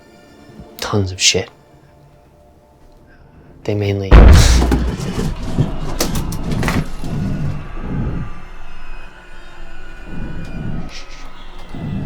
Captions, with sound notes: tons of shit. they mainly--- [THUD] [Screams and gunfire outside the room] Shhh shh